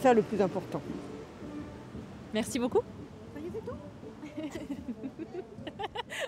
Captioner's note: laughs